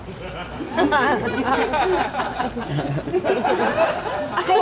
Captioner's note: audience laughs; Egeus mocks laughter